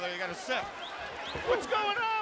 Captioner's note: crowd chatter